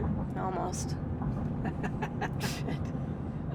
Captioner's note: laughs